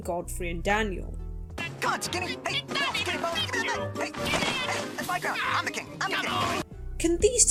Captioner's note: squabbling noises